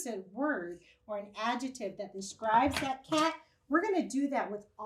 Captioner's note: chair creaks